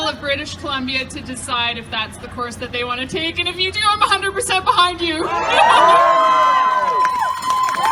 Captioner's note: cheering and Applauding